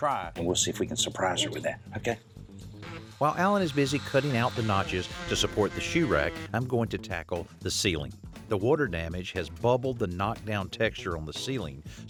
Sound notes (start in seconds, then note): 6.1 drilling